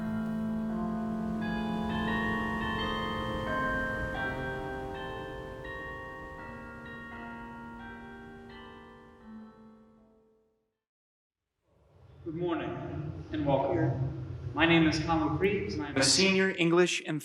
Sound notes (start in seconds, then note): 1.2 bells tolling